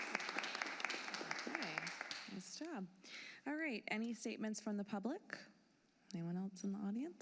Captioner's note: applause